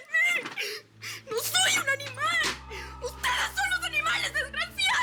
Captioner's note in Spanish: Sollozos